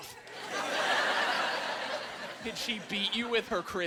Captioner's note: laughing